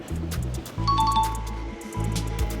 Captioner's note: ding sound effect